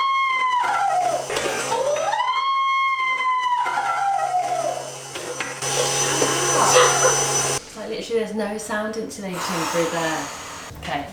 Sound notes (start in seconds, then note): 5.9 mixer whirring